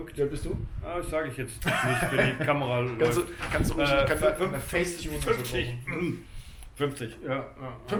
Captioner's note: chuckles; laughs; clears throat